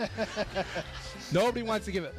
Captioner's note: audience laughing